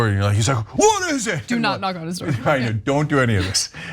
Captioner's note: laugh